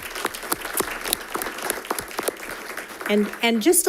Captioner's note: audience applauding